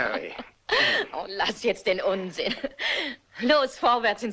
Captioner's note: laughing